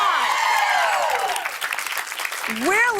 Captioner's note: cheers and applause